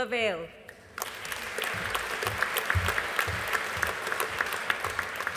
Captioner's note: audience applauding